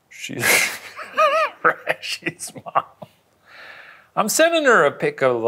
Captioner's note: laughs